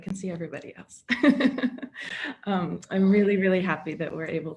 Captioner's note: laughter